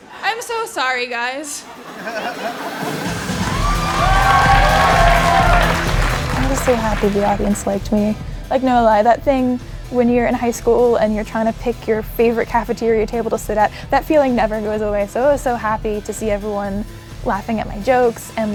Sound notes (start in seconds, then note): 2.3 cheering; 5.1 applause